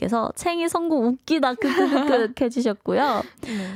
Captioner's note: laughing sounds